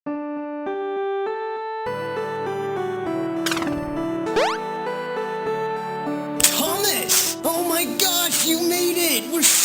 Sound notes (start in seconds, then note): 1.2 calm music; 4.3 game beeps